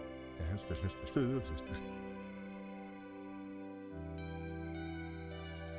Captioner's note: soft synth music; Mayor Tennity hums